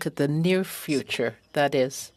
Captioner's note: speaking French